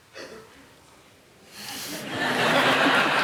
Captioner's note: laughter